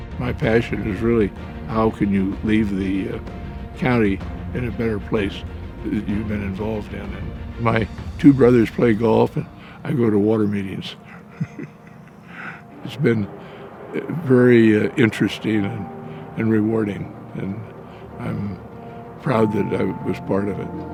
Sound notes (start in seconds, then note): 9.4 laughing